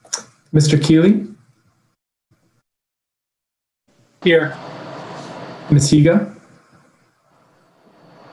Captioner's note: muted